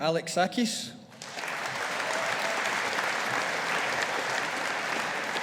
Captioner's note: audience applauding